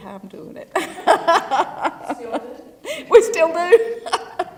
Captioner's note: laugh